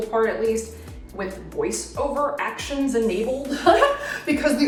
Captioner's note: laughs